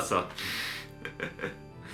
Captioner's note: laughs